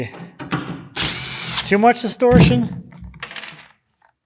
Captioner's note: electric screwdriver whirs